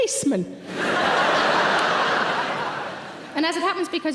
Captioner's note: audience laughing